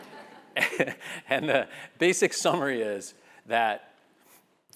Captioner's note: laugh